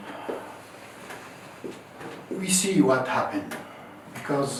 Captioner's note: sighing